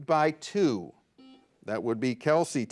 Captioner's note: buzzer buzzes